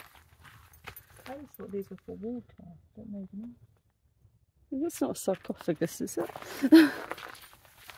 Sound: laughing

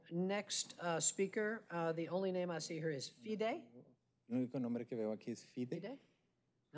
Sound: speaking spanish

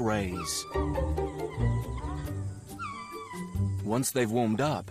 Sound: lemurs squeaking

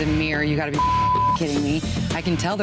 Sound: beep

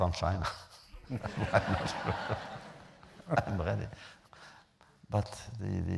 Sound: laughter

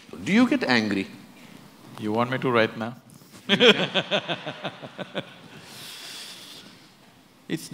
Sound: laughter

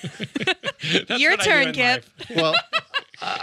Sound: laughs; laughs

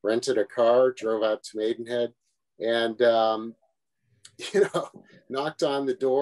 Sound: laughs

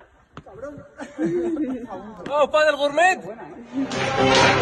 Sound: laughing; speaking in foreign language; lively music; clapping

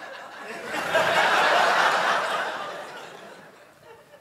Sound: laughter

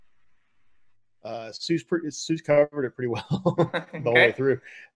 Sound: laughs

